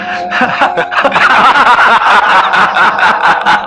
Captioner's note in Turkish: Kahkahalar